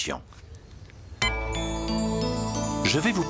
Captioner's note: beep!